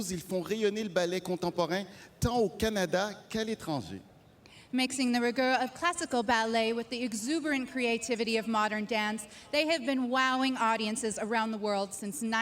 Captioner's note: speaking French